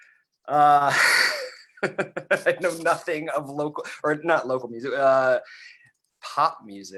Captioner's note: laughs